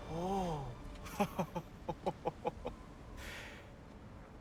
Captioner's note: laughs